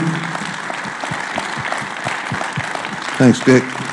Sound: applause

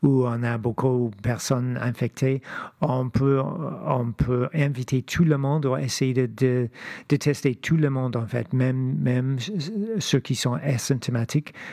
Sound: speaking French

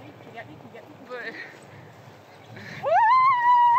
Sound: stammering

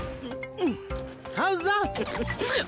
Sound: grunting; chuckling

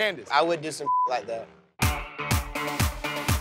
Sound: beep; upbeat music

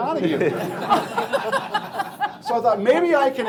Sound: laughing

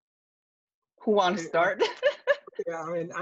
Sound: laughs

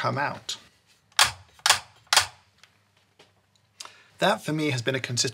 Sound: knocker clicks

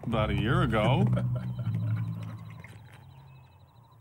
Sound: laughs

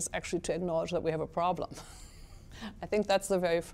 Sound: chuckles

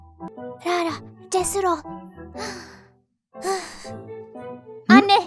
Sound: deep breath

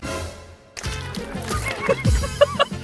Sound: stumbling

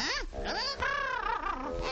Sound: squeaking; squawking

